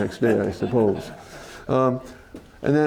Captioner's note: laughter